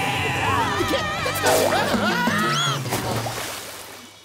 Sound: screaming

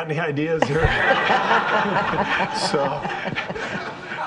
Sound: all laughing

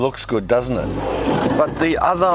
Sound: sifter scraping

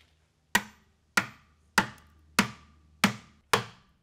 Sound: hammer pounds

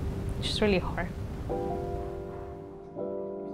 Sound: voice breaking

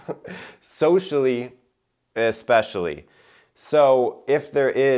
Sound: chuckling

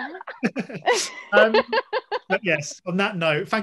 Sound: Hannah laughs; Elisha laughs

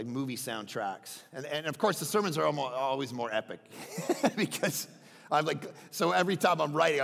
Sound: laughs

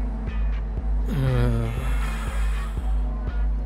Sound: lusty heave and sigh

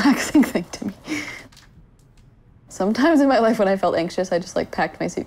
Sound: laughing

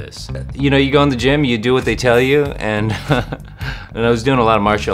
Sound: laughs

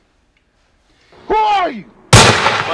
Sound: gunshot

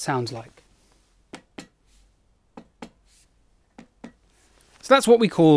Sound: dull tapping

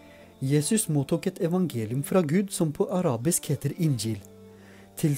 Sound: in Arabic

